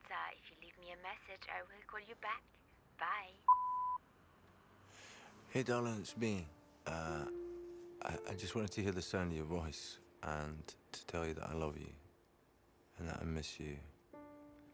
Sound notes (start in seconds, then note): 3.4 voicemail beeps